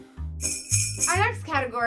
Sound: christmas bells ring

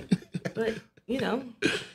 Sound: laughing

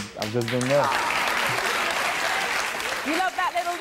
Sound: applause

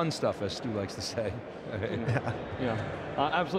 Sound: laughs

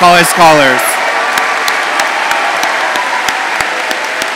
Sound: audience cheers

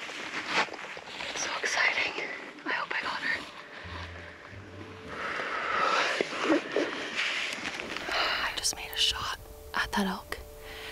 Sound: whispering

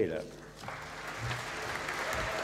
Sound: applause

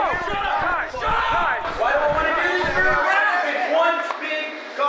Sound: all yelling at once

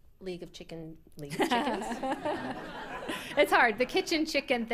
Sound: chuckles

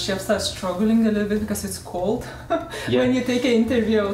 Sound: laughs

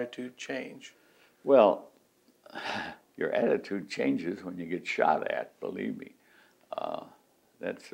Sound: laughs

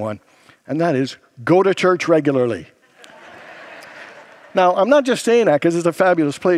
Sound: congregants laugh

